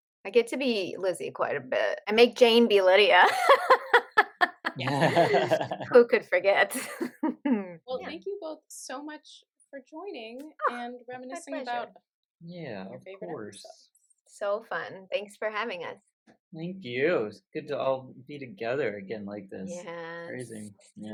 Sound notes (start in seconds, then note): 3.2 laughter; 10.4 scoffs